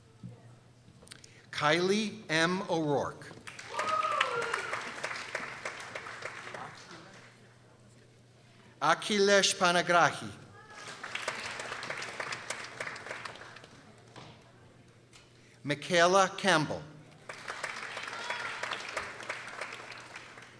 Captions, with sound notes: Kylie M. O'Rourke. (people cheering) Akhilesh Panigrahi. (people applauding) Mikaela Campbell. (people applauding)